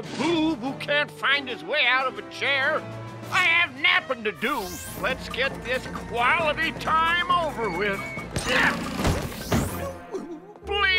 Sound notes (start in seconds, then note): 8.1 grunting